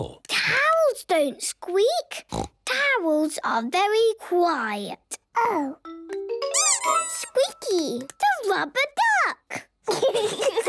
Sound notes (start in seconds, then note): 6.7 squeaks